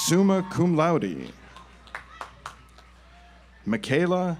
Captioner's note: audience applauds